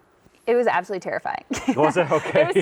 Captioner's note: laughs